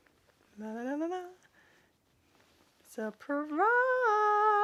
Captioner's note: humming